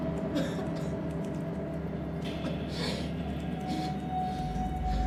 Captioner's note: Anne coughing, gasping